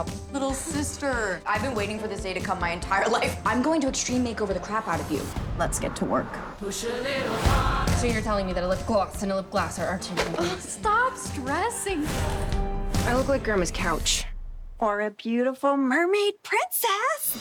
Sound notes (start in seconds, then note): 10.7 chuckling